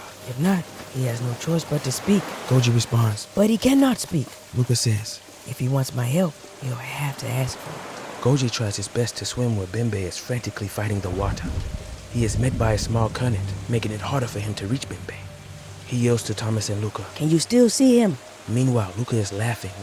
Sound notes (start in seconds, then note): 0.0 eerie music playing; 5.8 river rushes; 11.1 bubbles under water